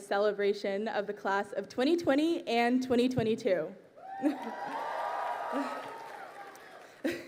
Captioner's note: crowd cheering